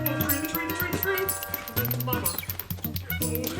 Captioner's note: doorbell ringing